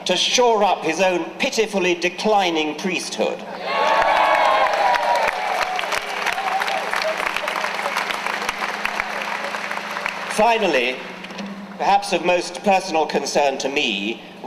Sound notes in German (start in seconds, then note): 3.5 Jubeln